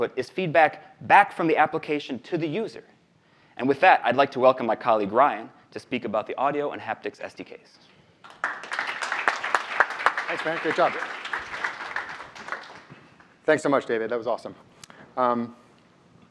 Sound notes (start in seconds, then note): 8.2 audience applauds